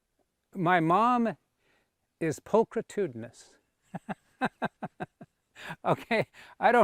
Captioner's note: laughs